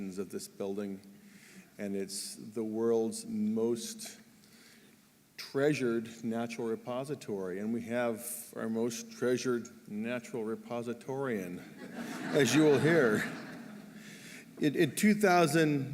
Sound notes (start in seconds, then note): 11.6 laughter